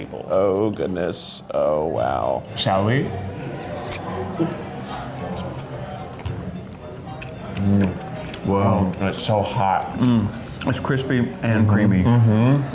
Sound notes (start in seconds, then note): 3.6 puckering kiss